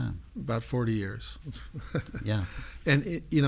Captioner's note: laughs